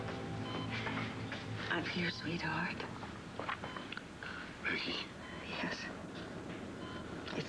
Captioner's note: monitor beeps